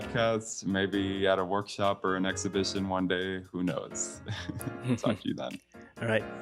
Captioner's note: laughing